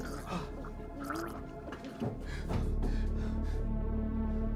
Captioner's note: person gurgling